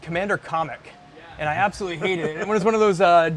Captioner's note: laughter